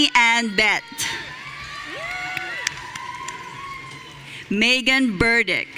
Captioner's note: audience cheering